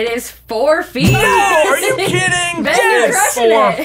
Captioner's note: bell dinging